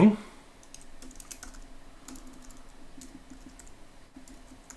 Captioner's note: keyboard clicking